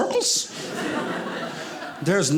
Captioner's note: audience laughing